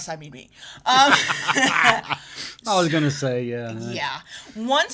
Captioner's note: laughs